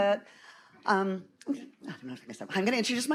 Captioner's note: faintly speaking